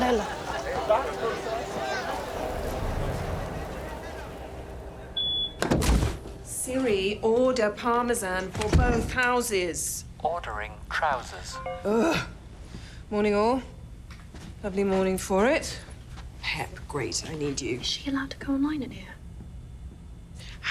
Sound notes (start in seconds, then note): 5.1 door beeping; 11.8 Sherberg groaning